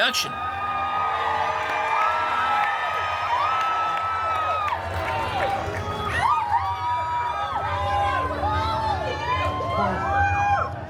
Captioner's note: guests cheering and applauding